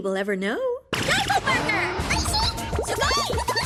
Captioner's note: murmuring; speaking in a foreign language